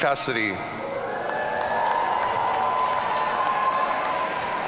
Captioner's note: audience cheering